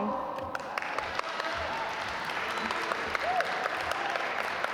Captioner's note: audience applaud